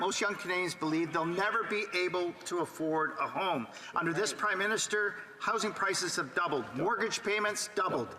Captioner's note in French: voix de l'interprète